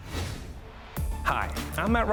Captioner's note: graphics whooshing